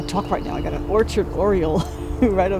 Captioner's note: laughing